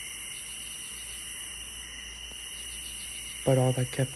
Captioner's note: insects chirping